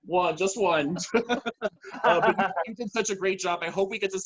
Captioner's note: laughs